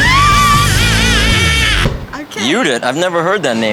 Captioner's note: hard rock music; screaming